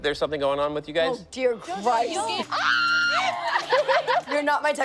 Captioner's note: yells